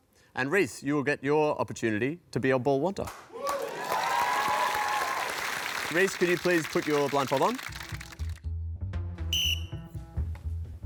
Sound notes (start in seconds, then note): 3.3 cheering, applause; 9.3 blows whistle